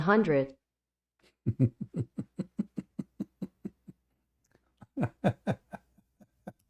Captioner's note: Ketawa